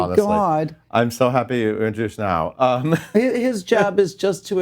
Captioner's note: laughs